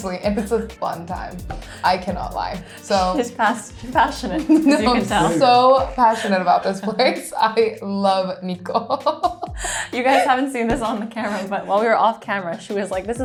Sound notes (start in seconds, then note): 9.0 laughs